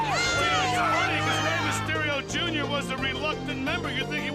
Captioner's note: crowd chatter